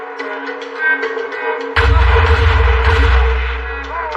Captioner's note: gunotots